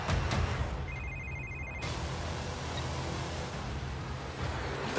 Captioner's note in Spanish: Suena el celular